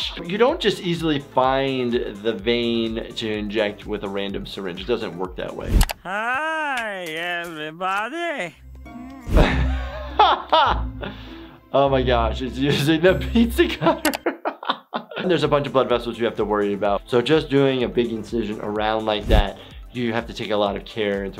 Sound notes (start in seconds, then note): 9.1 upbeat music; 13.8 laughs